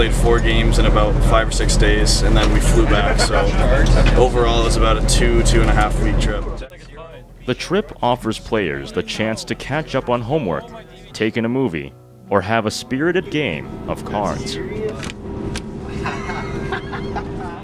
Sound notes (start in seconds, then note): 15.8 players laughing while playing cards